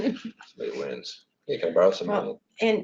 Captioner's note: audio echoed